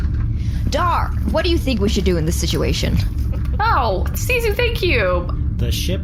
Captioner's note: happily